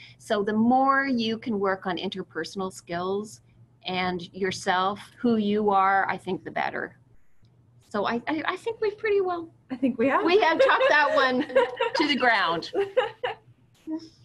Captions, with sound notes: So the more you can work on interpersonal skills and yourself, who you are, I think, the better. So I think we've pretty well. >> I think we have [laughs]. >> We have talked that one to the ground.